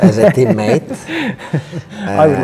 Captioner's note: Henry laughs